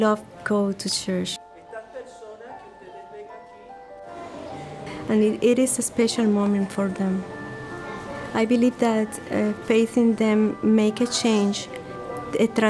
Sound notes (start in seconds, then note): 1.6 speaking in foreign language